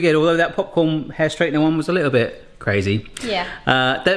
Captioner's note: none